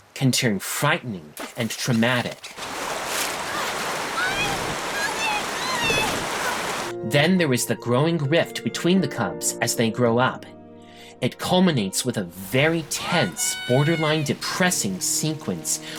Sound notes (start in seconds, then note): 3.5 gasping; 5.6 screams